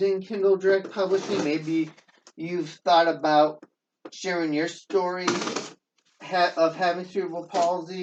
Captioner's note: tearing